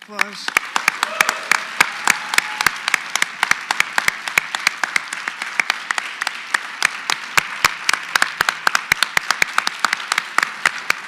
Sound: applause

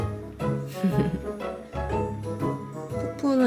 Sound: laugh

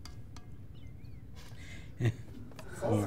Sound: chuckling

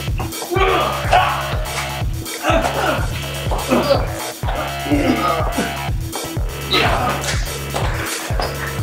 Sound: grunting

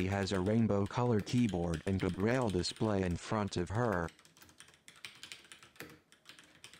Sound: tapping on the keyboard

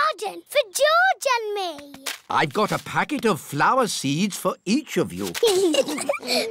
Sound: both giggling

